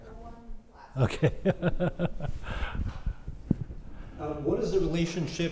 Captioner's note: laugh